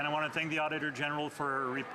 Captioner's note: some Applause